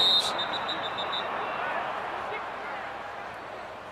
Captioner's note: whistle